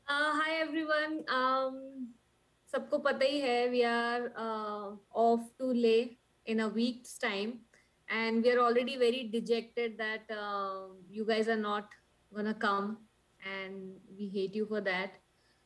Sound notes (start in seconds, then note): none